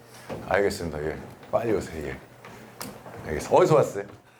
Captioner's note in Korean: 신난 발걸음